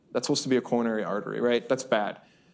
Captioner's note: none